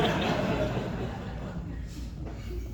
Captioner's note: laughter from the audience